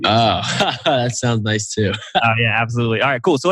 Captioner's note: laughs